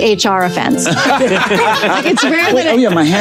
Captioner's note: group laughing